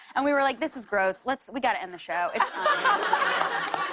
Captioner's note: laughter